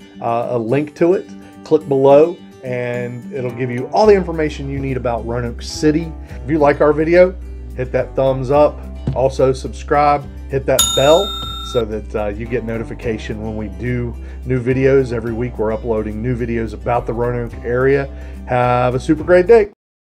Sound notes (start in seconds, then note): 10.8 bell dinging